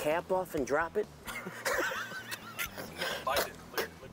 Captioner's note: laughing